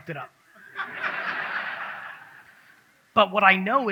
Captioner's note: audience laughs